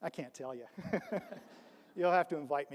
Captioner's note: laughs; audience laughs